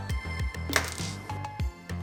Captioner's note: snap, followed by small object rattling